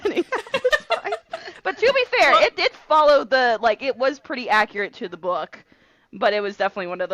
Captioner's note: laughing